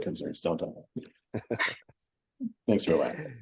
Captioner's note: laugh